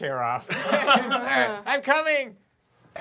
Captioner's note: laughing